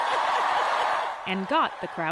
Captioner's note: applause; cheering